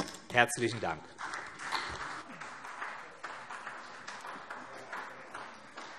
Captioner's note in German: Beifall CDU und vereinzelt BÜNDNIS 90/DIE GRÜNEN